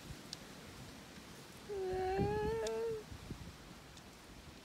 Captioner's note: a final sad sound